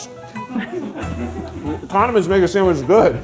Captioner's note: crew laughing